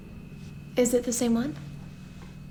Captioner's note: none